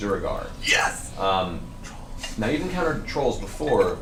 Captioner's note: whispers